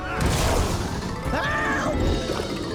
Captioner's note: daxter yells